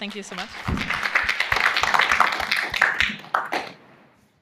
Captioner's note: applause